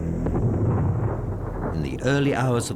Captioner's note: explosion